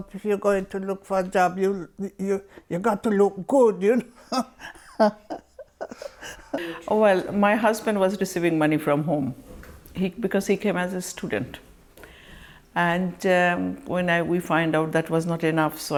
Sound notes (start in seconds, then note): 4.1 laughs